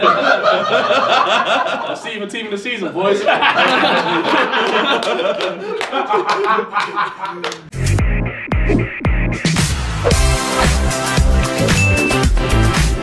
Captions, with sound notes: (laughing) See you for team of the season, boys. (laughing) (clapping) (upbeat music)